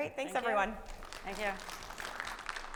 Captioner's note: audience applauding